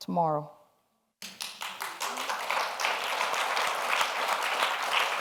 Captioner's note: audience applauds